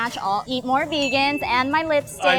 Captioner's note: bell dings